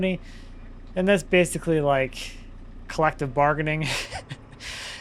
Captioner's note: laughs